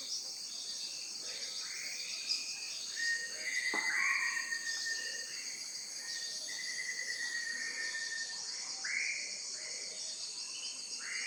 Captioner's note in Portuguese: Ambiente de floresta com insetos e pássaros